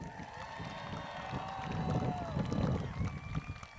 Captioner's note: crowd cheers